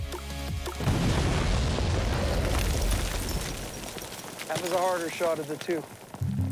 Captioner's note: explosion